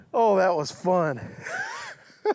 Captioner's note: laughs